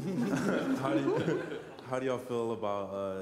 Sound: laughter

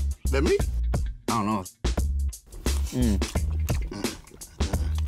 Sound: chewing loudly

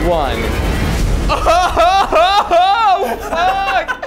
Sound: laughs

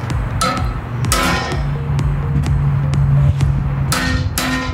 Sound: hammer clangs

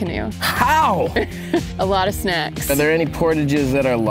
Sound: chuckles

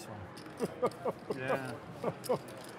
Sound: laughing

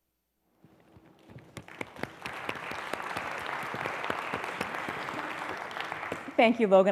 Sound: applause

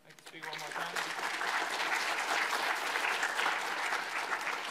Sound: audience applauds

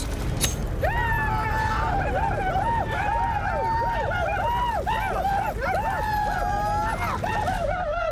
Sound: shoshone yelling

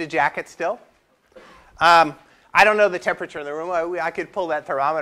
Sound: cough

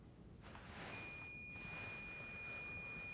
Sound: beeping

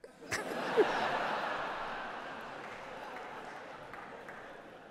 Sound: laughter

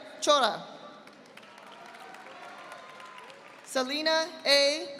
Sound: audience applauding

